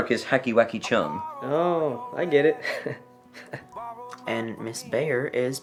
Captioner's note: chuckling